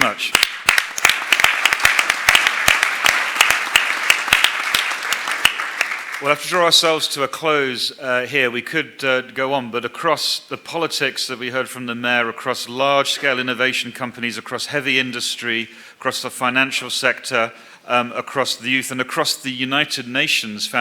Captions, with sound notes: Thank you. >>Thank you so much . (Applause) Tag we have to draw ourselves with a close hair. We could go on, but across the mayo, heavy industry, the financial sector,